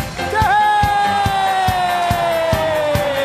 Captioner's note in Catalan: ovació